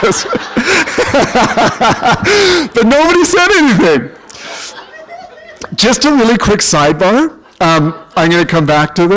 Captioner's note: laughter